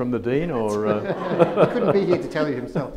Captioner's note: audience laughs